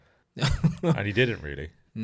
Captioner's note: laughs